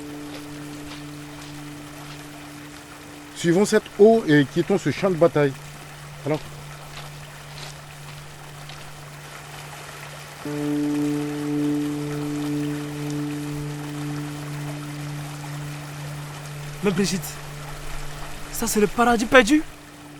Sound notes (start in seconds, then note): 10.3 waterfall atmosphere